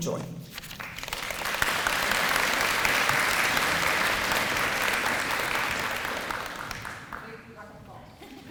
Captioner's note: applause